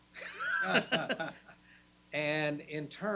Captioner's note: laughing